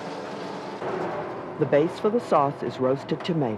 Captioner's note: voiceover